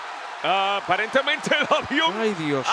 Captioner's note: laugh